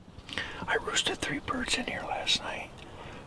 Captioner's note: whispers